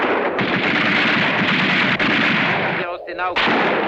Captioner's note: speaking in a foreign language; gunfire continues